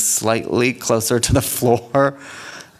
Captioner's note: laughing